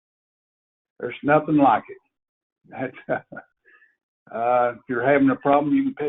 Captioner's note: laughs